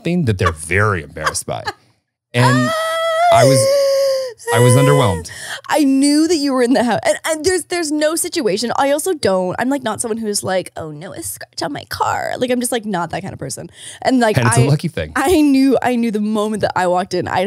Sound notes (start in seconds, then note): 2.4 laughing